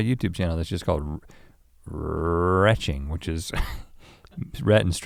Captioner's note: chuckles